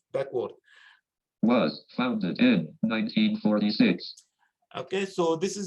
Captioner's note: automated Voice